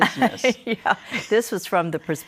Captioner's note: laughter